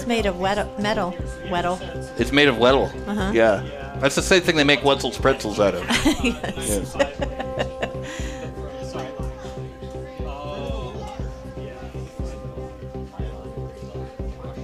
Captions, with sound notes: It's made of metal, metal. It's made of metal. Yeah, that's the same thing they make Wedzels pretzels out of. Yes. (laughing) (upbeat music)